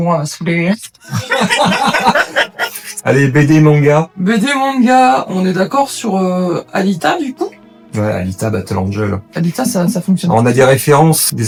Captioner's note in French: Rires